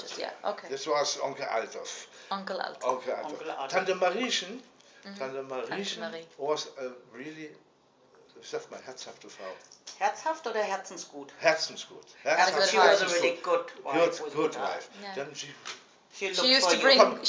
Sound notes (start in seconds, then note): 7.7 speaking in German